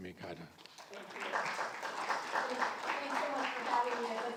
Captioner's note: audience applauds